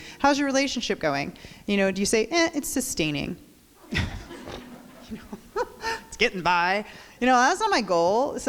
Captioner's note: crowd laughs